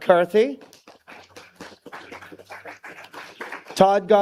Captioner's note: applause